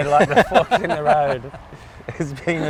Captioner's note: laughs